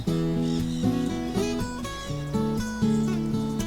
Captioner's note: birds chirping